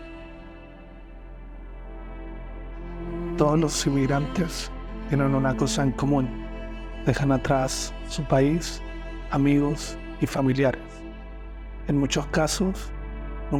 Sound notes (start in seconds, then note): 0.2 melancholic music continues; 3.1 narrator speaking in foreign language